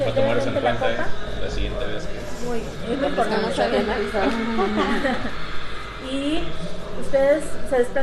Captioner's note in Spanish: risas